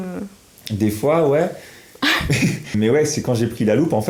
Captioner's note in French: Rires